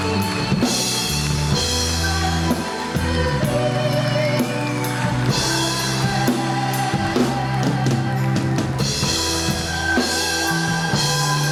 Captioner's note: audience applauding